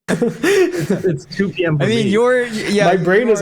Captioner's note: laughing